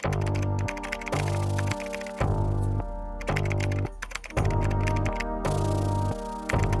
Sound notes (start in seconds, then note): 0.0 keyboard typing; 2.6 eerie music; 3.8 keyboard typing